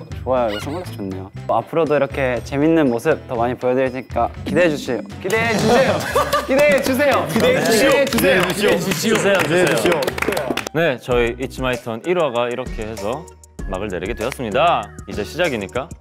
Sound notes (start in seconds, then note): 4.7 speaking in a funny accent